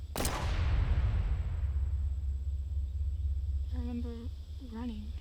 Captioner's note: shot firing; eerie music